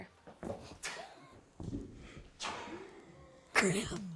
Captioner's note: laughs